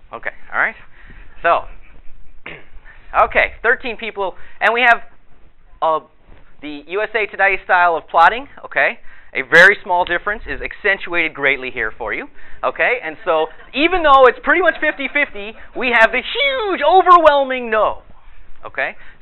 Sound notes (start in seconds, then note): 13.2 audience laughter